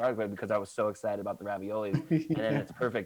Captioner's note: laughs